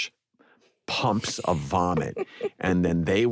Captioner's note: laughter